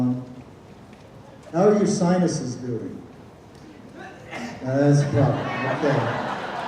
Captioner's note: someone sneezes